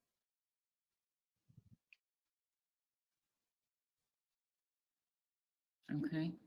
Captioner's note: 5 seconds pause